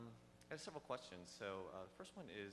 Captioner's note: voiceover